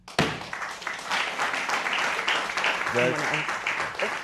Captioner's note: applause